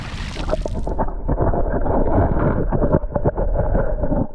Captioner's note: loud splash sound; underwater noises